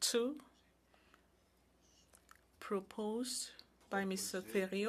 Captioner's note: speaking French